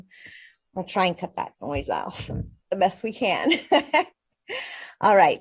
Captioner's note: laughs